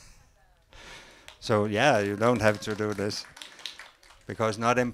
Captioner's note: aplause